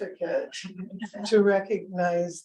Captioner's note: audience member laughs